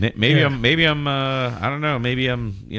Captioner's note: uh